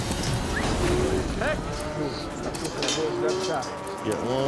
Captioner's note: gate clanking; cows mooing